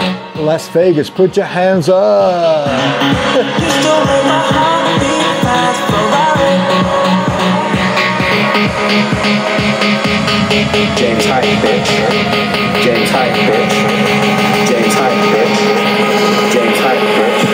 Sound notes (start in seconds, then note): 2.4 atmospheric sounds